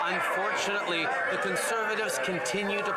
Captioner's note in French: voix de l'interprète